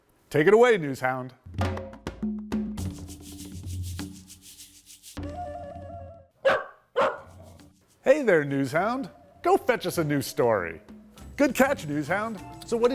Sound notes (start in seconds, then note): 2.6 upbeat music; 6.4 dog barking